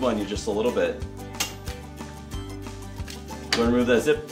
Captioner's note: zip tie snapping